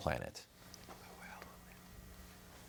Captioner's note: whispering